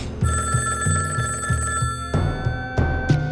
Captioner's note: phone rings